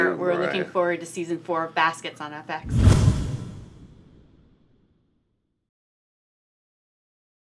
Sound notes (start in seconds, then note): 2.6 dramatic rushing noise